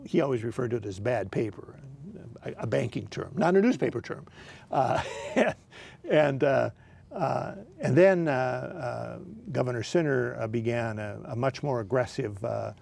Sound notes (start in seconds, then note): 4.7 laughing